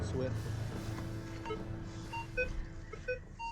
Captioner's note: beeping